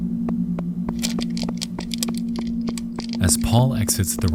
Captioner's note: shuffling sound